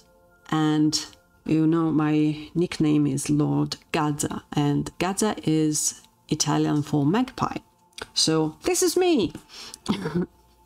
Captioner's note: laughs